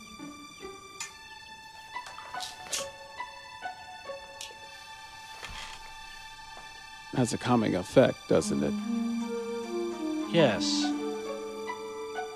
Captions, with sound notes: (lighter clicks) Has a calming effect, doesn't it? - Yes.